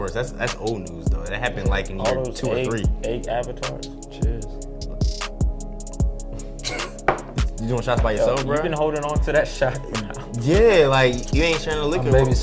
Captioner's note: laughs